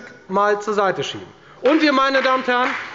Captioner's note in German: Beifall bei der FDP